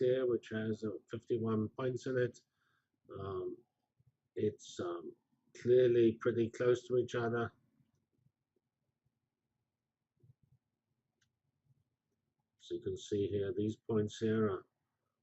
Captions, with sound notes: which has 51 points in it... it's clearly pretty close to each other... [pause] So you can see here these points here are